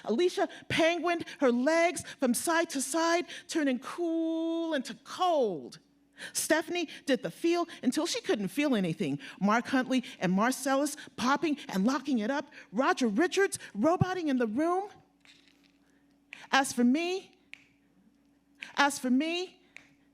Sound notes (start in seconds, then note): none